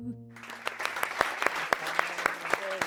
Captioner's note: audience applauding